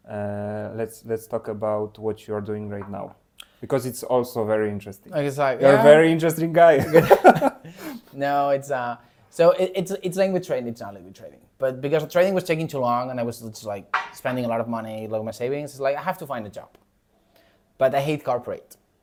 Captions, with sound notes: Uh, let's, let's talk about what you're doing right now, because it's also very interesting. Is like, yeah- You're a very interesting guy. [laughs] [laughs] No, it's, uh... So, it's, it's language trading. It's only with trading. But because trading was taking too long and I was just like spending a lot of money, like, my savings. It's like, I have to find a job. But I hate corporate.